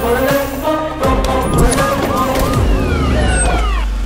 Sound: police siren wails

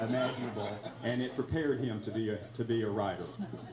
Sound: laughter drowns out conversation

